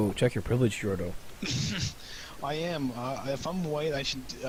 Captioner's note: chuckling